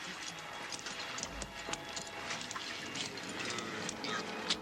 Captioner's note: men chattering